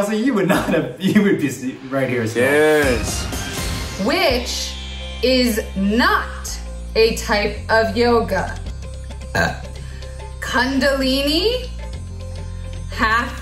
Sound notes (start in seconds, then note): 9.2 burping